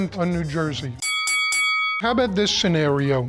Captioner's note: dinging